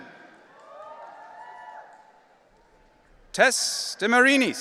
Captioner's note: audience cheering